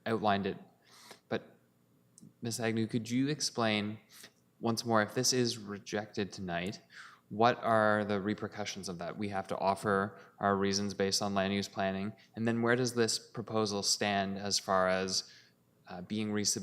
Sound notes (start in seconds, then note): none